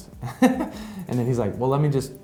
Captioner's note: laughs